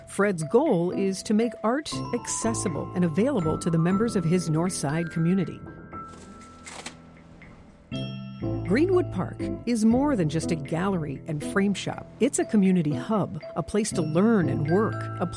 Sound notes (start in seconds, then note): 6.0 package shuffling; 6.5 gentle bright music